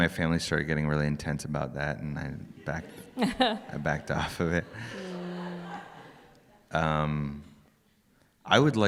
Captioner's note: laughter